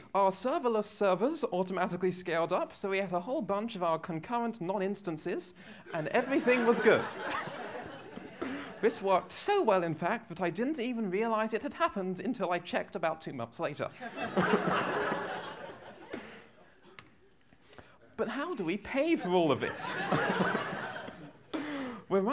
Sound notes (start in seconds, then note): 5.9 laughter